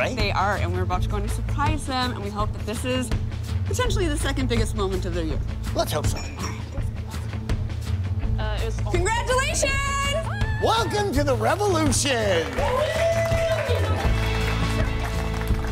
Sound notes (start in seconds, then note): 6.5 hushed talking; 13.4 clapping and cheering